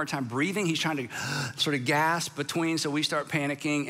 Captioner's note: gasps